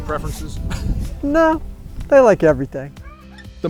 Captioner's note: laughing